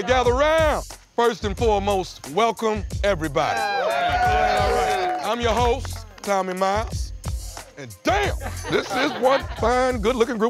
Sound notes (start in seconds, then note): 3.4 all cheer